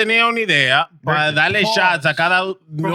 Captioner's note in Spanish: Hablando en idioma extranjero